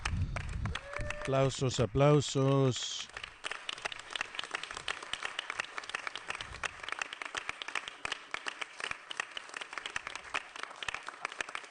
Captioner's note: applause